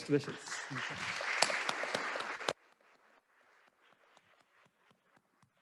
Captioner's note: attendees applauding